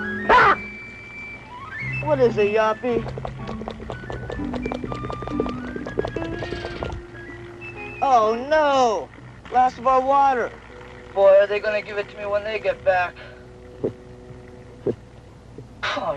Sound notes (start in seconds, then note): 1.1 baboon chattering